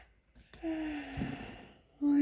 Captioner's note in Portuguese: suspirando